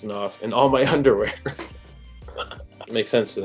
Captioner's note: laughs